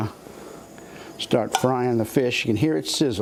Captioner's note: sizzling